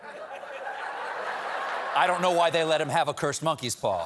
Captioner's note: laughter